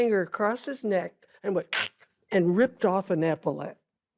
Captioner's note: clicks tongue